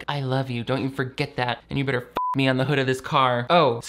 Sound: beep

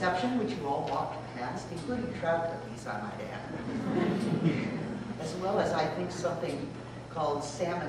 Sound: laughter

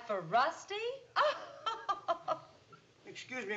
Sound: laughs

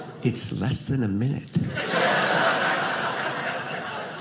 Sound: audience laughing

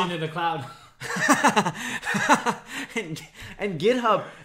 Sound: laughs

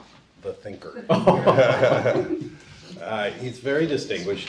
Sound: audience laughing

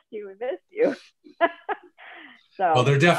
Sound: laughs

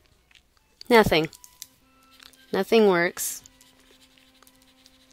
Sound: pause in Lecture

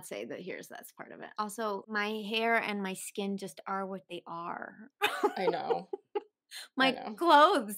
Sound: laughter

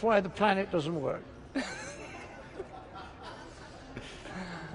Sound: laughs

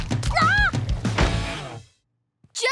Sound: screams

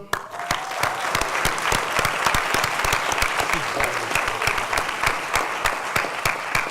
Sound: appaluse

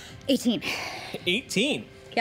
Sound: exhales

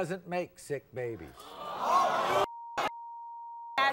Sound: audience boos

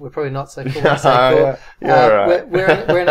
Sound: laughs

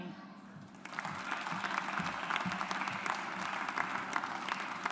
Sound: audience applauds

